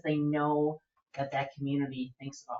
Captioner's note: none